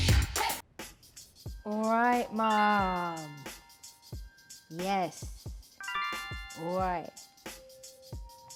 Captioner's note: notification sound